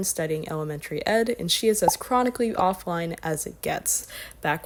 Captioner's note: pop